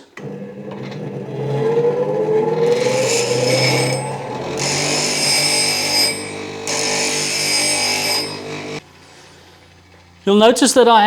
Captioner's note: grinding Noise